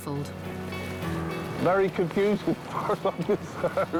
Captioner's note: laughing